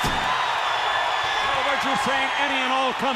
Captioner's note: crowd cheering